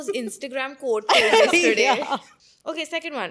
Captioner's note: laughs